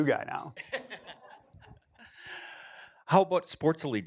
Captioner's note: laughter